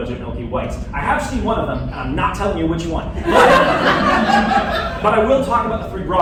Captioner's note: laughter